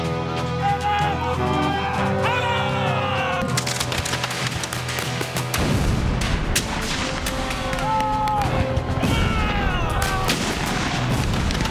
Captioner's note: guns and canons firing